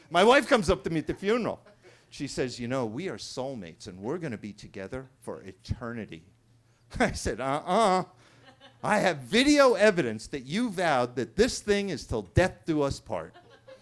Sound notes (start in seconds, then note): 8.3 attendee laughing; 13.2 attendees laughing